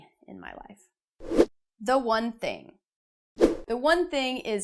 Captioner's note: air whooshing